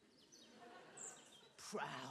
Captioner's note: audience laughing